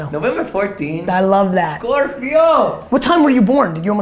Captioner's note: speaking Spanish